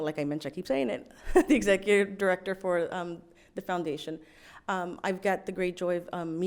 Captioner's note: laughs